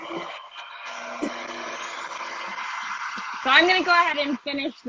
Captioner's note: air whooshing